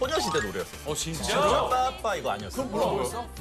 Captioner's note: bbam-bba-bam